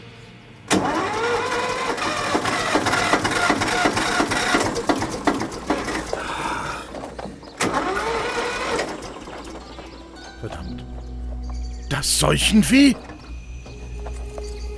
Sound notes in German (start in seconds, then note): 1.5 Motor startet zweimal nicht